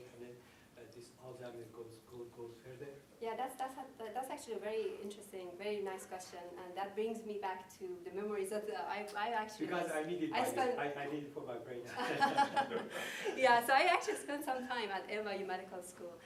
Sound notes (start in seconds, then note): 11.8 laughter; 11.9 laughing